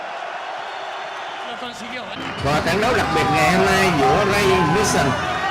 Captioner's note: cheering